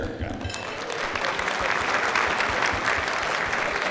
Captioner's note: clapping